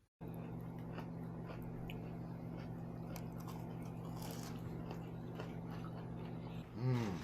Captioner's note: Crunch